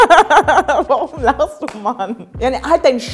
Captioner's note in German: Sie lacht